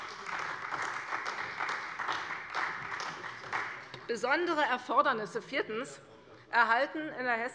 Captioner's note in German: Beifall bei der CDU